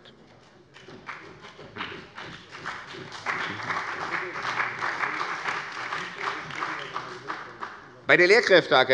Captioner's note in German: Beifall bei dem BÜNDNIS 90/DIE GRÜNEN und der CDU